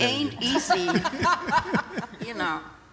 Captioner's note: laughter